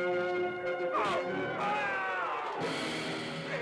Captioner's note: yelling